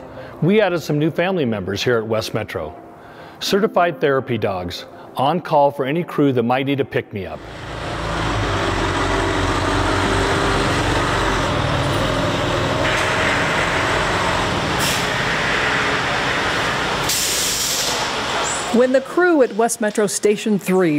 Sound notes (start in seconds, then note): 8.6 engine rumbling; 17.0 air brakes hissing